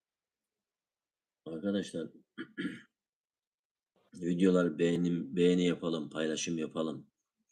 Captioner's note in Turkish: boğazını temizler